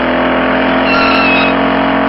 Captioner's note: skid